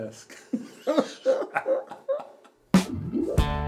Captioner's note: both laughing